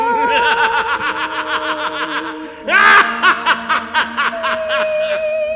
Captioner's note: Dracula laughs